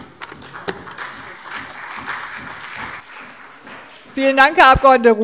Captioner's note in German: Beifall CDU